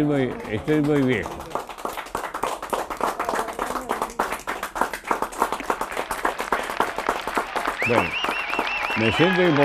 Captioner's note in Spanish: aplausos